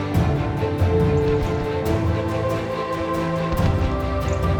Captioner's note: hooves clopping